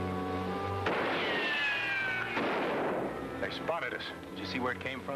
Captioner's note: gunshot bangs